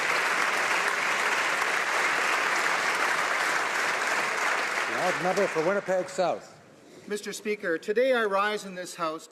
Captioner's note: applause